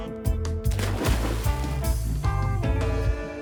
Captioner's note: splashing